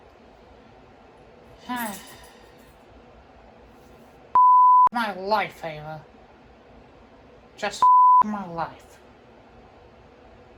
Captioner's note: sighs